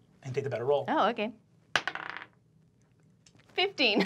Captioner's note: dice clacking